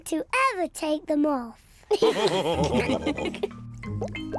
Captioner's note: all laugh